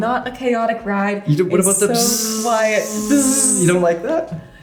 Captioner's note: buzzing